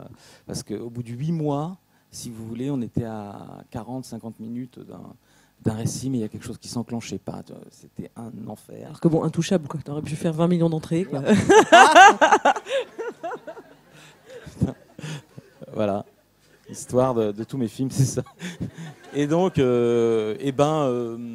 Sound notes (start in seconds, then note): 11.1 laughs